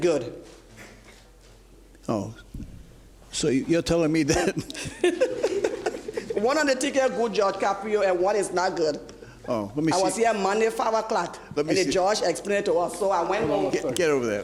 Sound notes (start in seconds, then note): 4.3 laughing